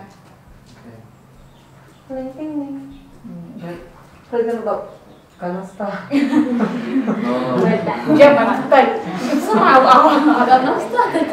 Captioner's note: chattering